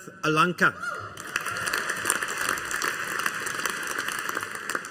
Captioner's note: audience applauding